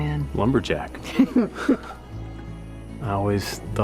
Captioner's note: chuckles